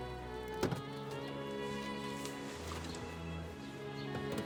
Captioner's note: door slams